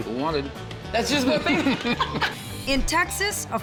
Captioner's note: laughing